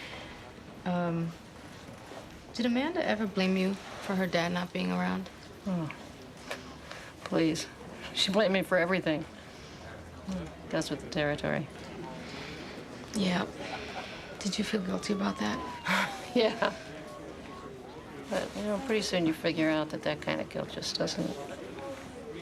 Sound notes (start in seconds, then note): 15.8 chuckling